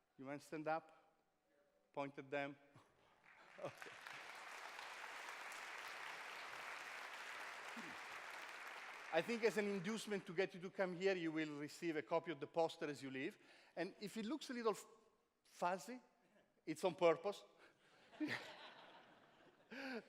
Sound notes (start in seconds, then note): 3.1 applause; 3.6 chuckles